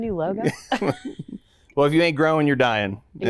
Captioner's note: both laughing